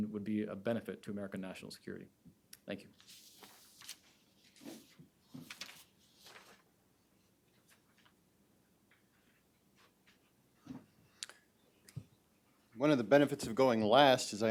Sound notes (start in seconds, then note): 5.2 papers shuffling